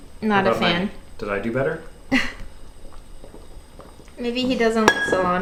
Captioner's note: laughs